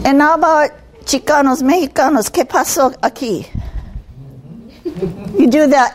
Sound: speaking in Spanish

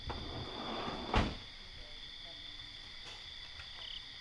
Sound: door slamming; crickets chirping

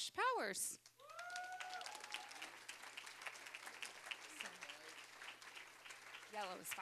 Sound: cheering, applause

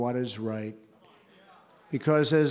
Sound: applause

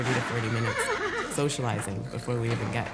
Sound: horse whinnies

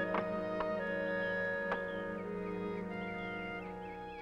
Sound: clicks, Whirring

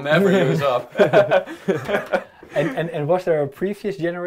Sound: group laughing

